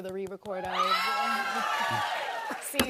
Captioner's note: cheers and applause